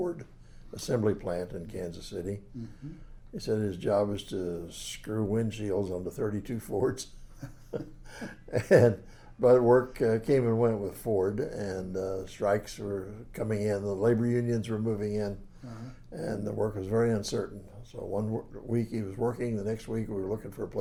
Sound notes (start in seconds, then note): 7.4 laughs